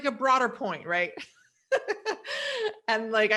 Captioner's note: laughs